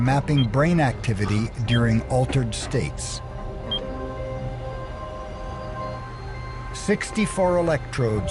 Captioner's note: beeps